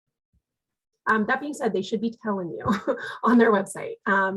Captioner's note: chuckles